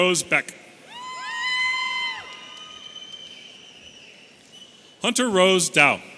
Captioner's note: audience cheering and whistling